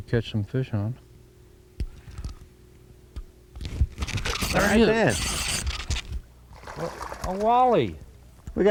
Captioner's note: reel noise